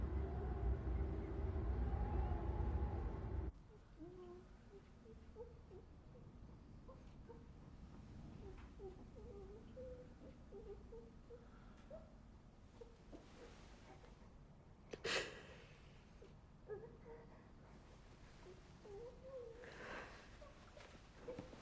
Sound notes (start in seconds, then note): 0.0 wind howling; 5.3 child whimpering; 15.1 Bryn gasps; 18.8 child whimpering